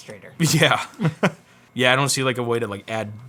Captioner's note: laughs